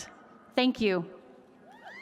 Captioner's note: cheers and applause